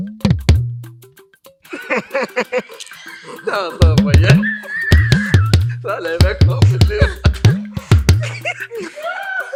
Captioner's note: drum beats; everyone Laughs